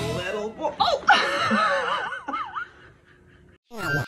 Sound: laughs

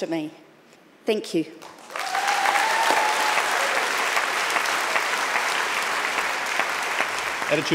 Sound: audience clapping and cheering

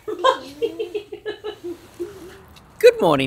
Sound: laughing

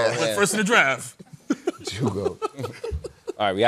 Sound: laughter

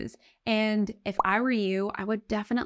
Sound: text overlay blooping

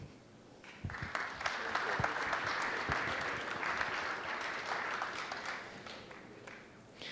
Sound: applause

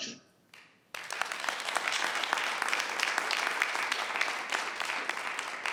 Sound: audience applauds

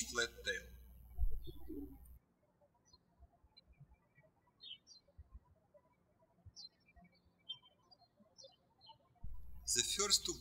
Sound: birds chirping

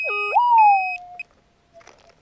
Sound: metal detector sounds

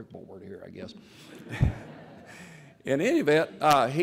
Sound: laughter

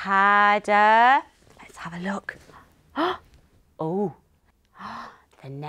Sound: gasps

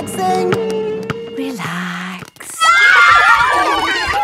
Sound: kids screaming; laughter

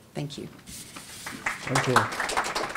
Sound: applause

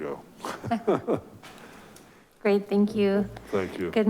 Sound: chuckles

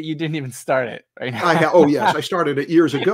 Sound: laughs

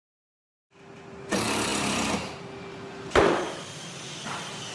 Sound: tools whirring

